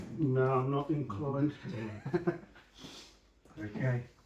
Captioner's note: laughing